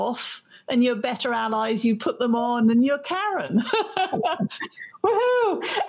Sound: both laugh

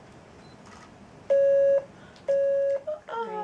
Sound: beep beep

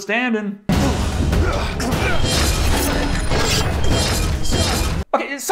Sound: all battle sound except for gun

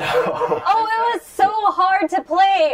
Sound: laughter

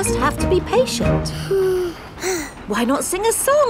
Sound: both sigh

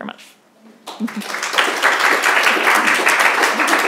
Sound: applause

